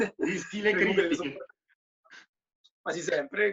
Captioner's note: laughter